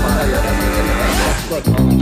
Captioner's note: indistinct chattering